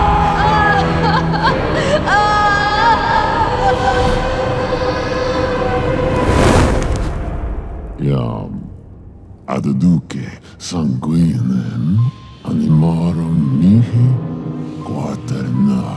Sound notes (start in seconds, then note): 0.0 crying; 6.0 fire crackling; 8.2 demon speaks in foreign language